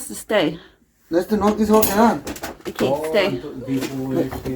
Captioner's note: Spanish